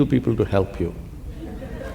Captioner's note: laughter